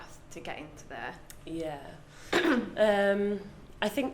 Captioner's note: clears throat